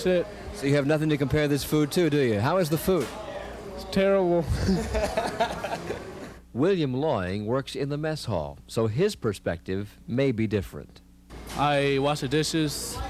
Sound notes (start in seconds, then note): 6.7 laughter